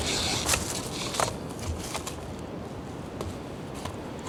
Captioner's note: echoing river